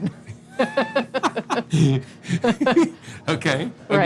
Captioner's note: chuckling together